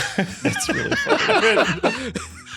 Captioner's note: everyone laughs